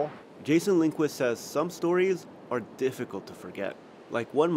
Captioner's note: voice-over